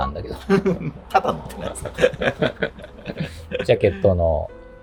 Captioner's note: laughing